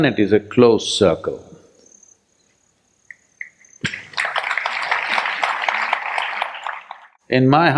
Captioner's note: applause